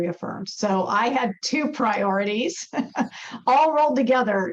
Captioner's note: chuckles